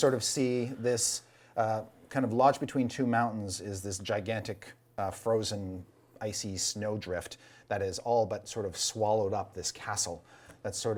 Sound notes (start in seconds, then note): none